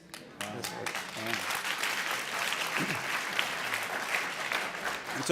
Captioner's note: audience cheering and applauding